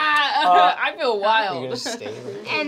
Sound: chuckles

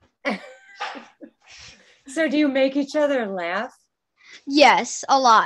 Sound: chuckling

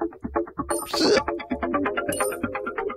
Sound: noise of repulsion

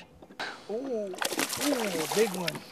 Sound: splash

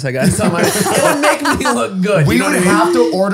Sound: all laughing

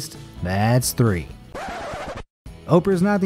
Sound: record scratching

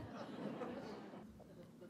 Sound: laughter

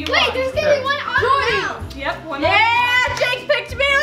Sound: kids arguing

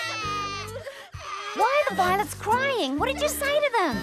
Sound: crying

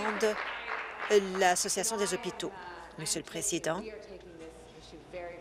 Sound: applause

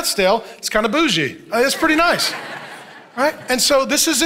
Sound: congregation laughing

